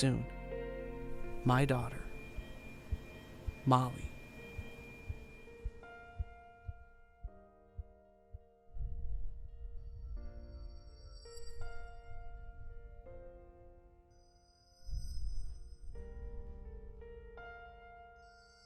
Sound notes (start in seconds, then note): 4.5 hospital sounds, heart monitor